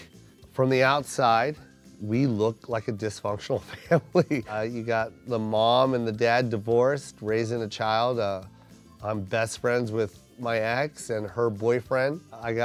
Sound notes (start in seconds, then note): 3.6 chuckles